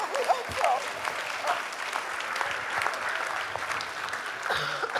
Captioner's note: audience applauding